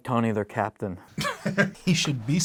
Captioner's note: Don laughs